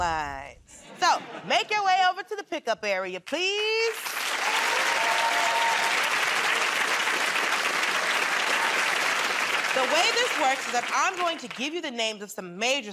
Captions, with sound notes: [ Laughter ] So, make your way over to the pickup area, please. [ Cheering and applause ] The way this works is that I'm going to give you the names